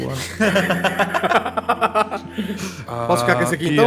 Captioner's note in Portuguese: riem